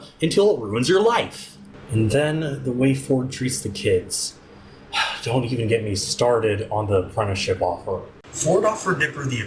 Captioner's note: sigh